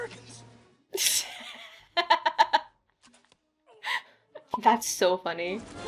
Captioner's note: laughs